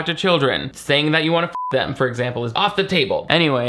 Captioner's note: beep